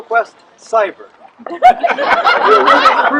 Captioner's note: laughter